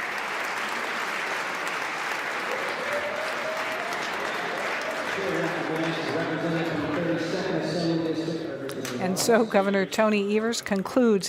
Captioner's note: cheers and applause